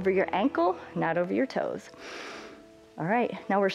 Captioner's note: inhales